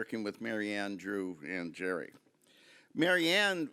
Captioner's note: none